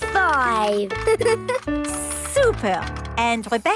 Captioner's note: giggles